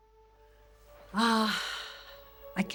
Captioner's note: sighing